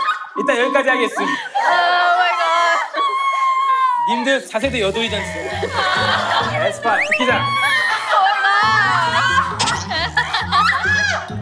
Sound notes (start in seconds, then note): 3.2 crying